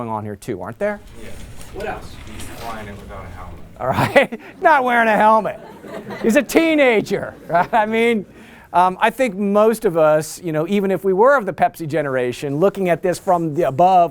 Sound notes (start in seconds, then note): 5.3 laughter